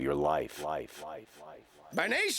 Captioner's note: echoing